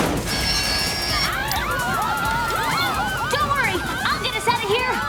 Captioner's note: screaming